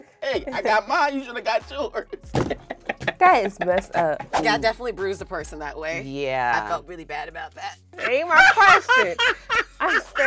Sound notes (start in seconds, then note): 0.2 laughing hysterically; 2.3 hits table; 3.3 laughing; 8.0 laughing hysterically